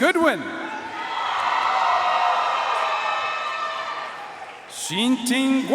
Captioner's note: audience cheering and applauding